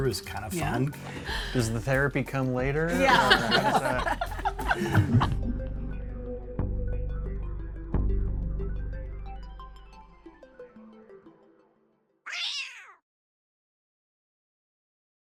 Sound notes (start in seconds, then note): 2.9 all laugh; 5.4 bouncy inquisitive music; 12.2 cat screeches